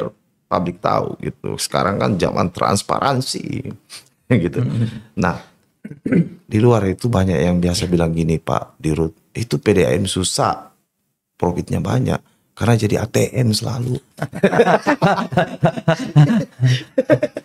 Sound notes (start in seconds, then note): 14.2 laughs